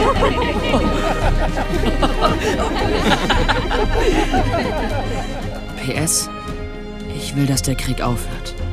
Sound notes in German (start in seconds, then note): 2.4 Lachen